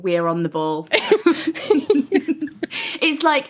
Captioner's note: laughing